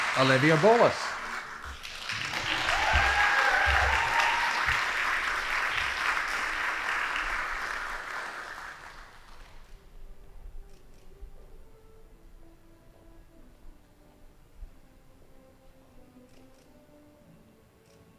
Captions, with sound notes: Olivia Bores. (audience applauding) (band playing)